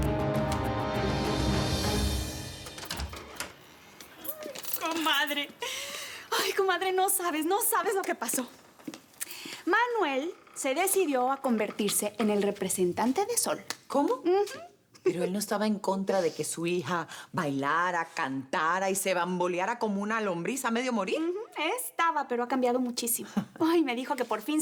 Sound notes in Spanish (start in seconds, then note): 4.8 Ruido al abrir